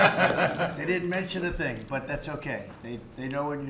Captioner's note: laughter